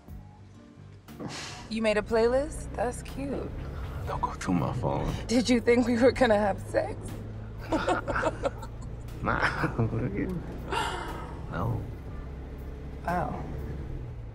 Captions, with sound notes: (exhales loudly) - You made a playlist? That's cute. - Don't go through my phone. - Did you think we were gonna have sex? (laughs) - No. - Wow.